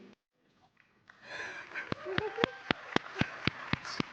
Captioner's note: crowd clapping